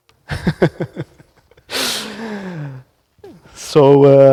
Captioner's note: laughs